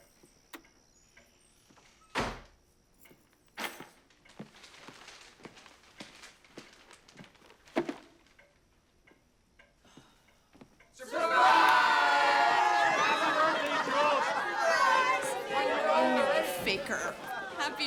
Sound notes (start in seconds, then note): 0.4 clock ticking; 2.3 door bangs; 4.4 bag rustling